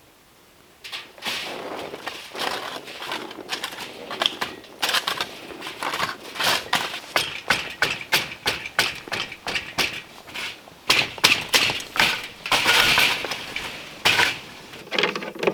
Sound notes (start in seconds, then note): 5.0 scraping; 8.3 tapping